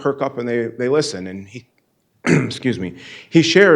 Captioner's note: clears throat